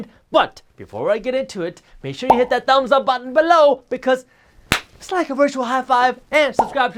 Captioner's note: clap